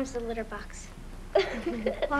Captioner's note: giggles